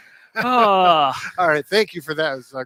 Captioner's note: sighs